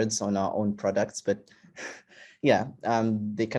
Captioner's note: chuckles